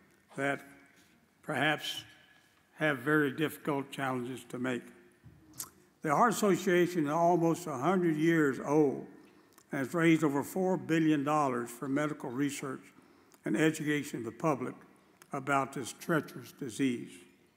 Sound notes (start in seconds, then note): none